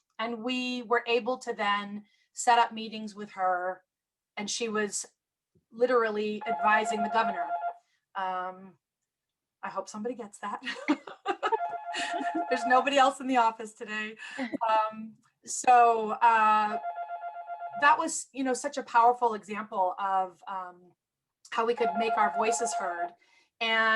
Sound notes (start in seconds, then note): 11.9 laughter